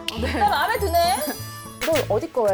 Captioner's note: proud sound effect